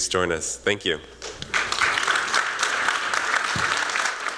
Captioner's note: applause